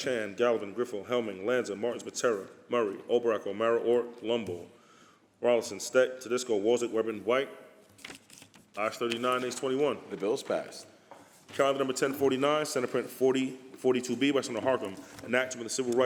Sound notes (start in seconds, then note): none